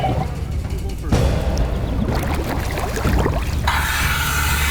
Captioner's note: water burbling